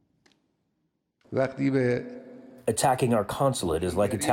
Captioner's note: through translator